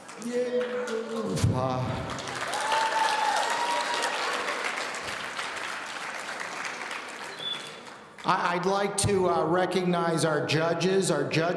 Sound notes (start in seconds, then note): 0.0 audience applauding